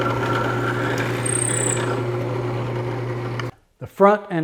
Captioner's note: drill buzzing